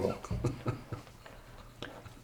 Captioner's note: chuckles